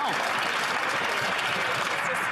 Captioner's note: some Applause